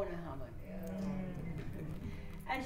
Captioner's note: murmurs of recognition